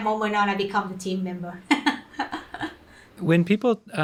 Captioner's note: laughs